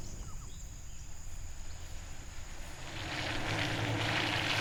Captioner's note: birds chirping; engine rumbling